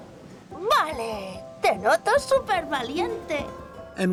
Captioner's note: in Spanish